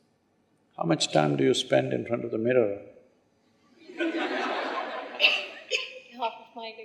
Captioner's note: laughter